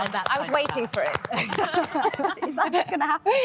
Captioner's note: all laughing